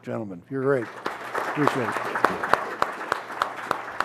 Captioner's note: applause